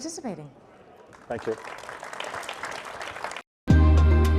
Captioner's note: audience applauding; bright music